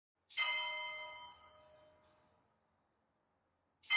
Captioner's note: church bell chiming